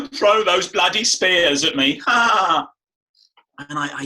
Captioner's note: laughs